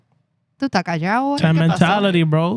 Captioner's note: speaking In Foreign Language